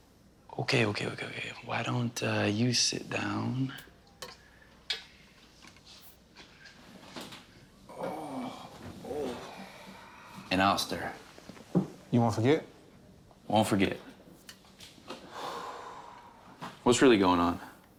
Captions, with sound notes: Okay, okay, okay. Why don't you sit down? [Geoff groaning] And I'll stir. You won't forget? Won't forget. What's really going on?